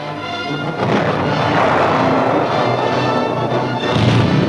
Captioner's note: guns firing